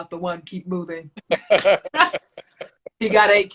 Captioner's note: laughs